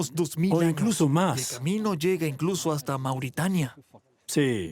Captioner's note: Arabic spoken audio